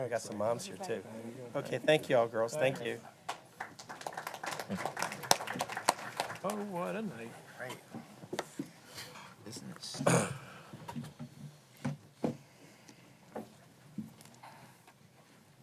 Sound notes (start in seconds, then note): 3.2 applause